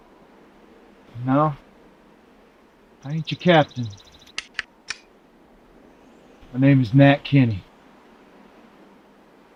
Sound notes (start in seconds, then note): 4.3 gun clicks